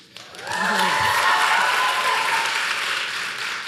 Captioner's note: applause